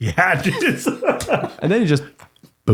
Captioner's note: laughing